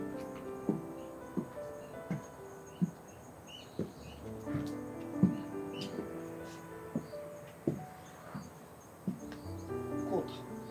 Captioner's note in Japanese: 足音